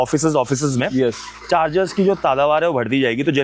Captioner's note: nasal sound